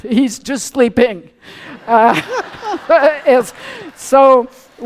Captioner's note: laughter